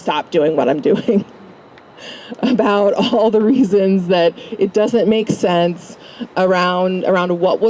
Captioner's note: laugh